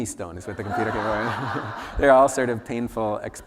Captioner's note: laughter